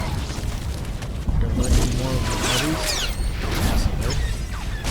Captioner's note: explosion